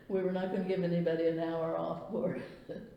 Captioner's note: laughs